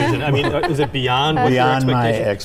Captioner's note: laughing